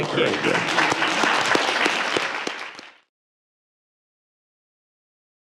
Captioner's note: audience applauding